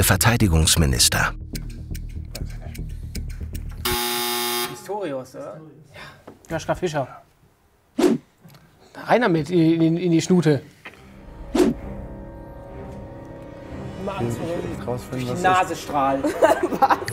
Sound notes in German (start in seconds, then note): 3.8 Buzzer; 10.8 Unheilvolle Musik